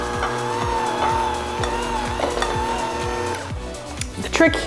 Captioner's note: handmixer whirs